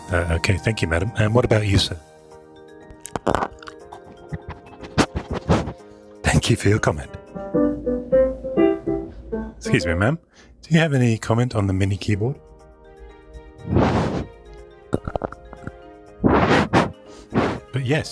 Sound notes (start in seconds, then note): 3.0 crunching; 16.2 crunching and sniffing